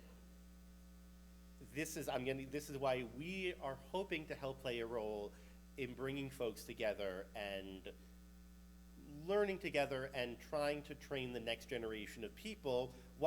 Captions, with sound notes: So, (mic humming) this is why we are hoping to help play a role in bringing folks together and learning together and trying to train the next generation of people,